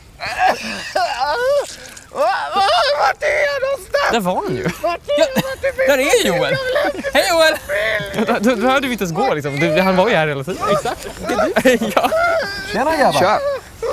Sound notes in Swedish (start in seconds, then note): 10.6 skrattar lite grann